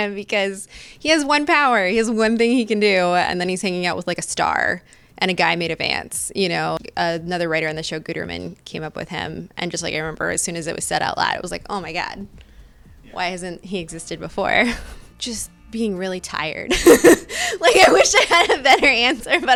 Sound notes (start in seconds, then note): 16.8 laughing